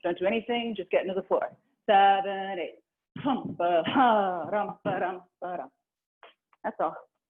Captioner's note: vocalizing a rhythm; vocalizing a rhythm